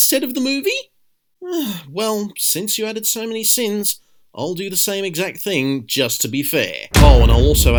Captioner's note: groan